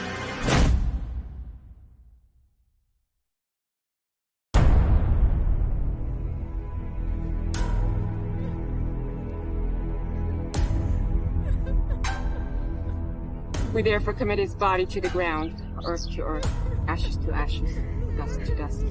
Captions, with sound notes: (door slamming) (ominous music) (mourners crying) - We therefore commit his body to the ground. Earth to earth. Ashes to ashes. Dust to dust.